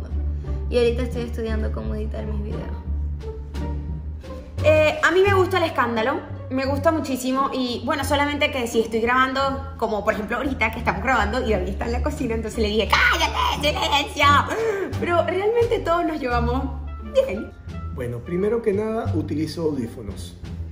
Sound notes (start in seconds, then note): 12.9 screams histerically